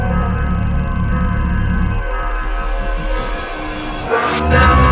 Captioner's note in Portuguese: Zumbido